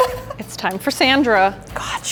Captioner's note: laughing